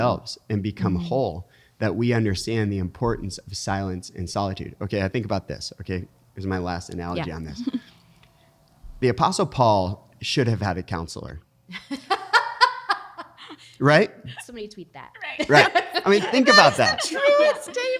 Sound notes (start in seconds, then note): 12.1 laughs